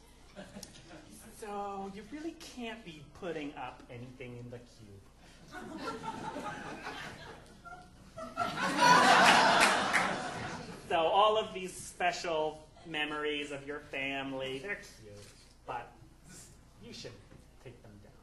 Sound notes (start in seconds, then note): 5.4 audience laughing